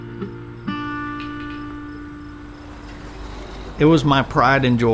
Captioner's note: traffic rumbling